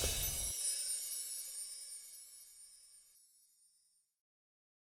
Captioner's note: chimes sound effect